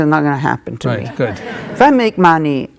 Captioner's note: audience laughing